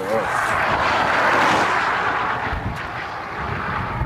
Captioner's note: traffic whooshes